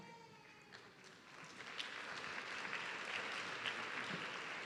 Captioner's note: audience clapping